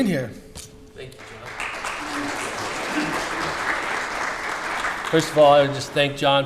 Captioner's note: audience applause